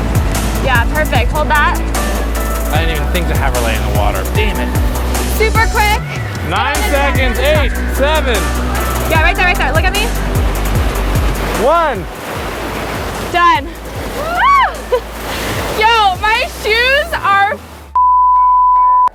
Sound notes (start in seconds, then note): 0.0 upbeat music; 14.2 happy shrieks; 17.9 beep